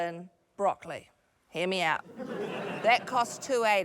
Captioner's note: laughter